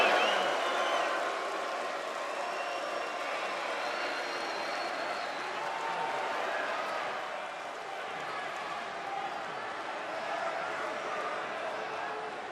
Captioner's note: crowd chatter